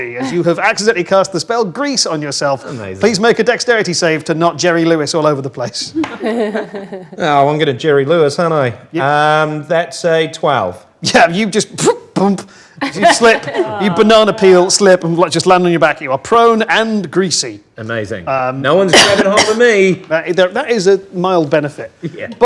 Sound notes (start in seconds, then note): 5.8 group laughs